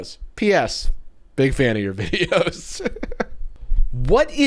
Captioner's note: laughs